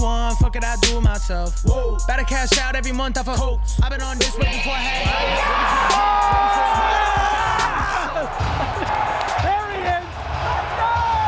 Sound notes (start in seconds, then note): 4.0 intense music; 4.6 yelling